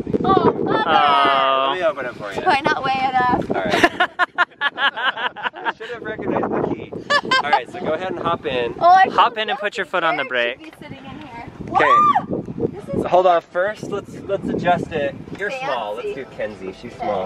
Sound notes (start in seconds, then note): 3.7 laughing; 11.6 yelling